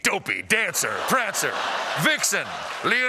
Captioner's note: as intense announcer